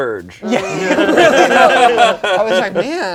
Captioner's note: all laugh